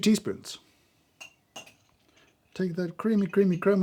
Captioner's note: teaspoons clinking